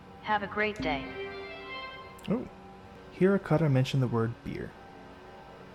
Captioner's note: Hab Voice